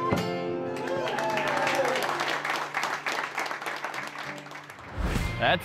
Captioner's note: cheers